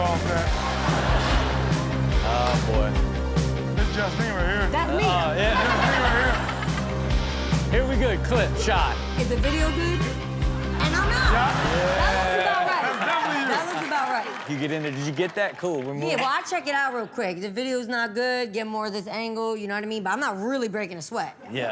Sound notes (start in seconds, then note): 0.3 audience laughs; 5.4 all laugh; 6.5 peppy music; 14.7 audience cheers